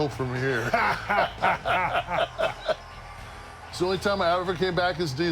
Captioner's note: laugh